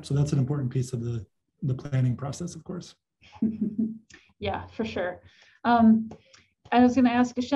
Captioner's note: chuckles